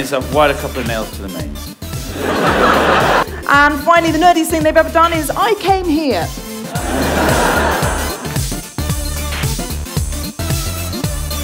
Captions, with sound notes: I’ve wired a couple of nails to the mains (laughter) And finally, the nerdiest thing they’ve ever done is I came here